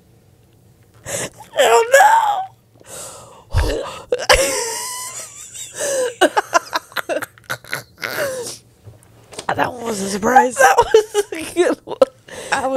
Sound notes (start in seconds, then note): 4.2 panel laughing